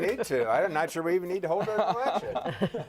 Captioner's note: laughter